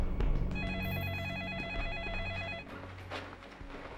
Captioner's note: phone ringing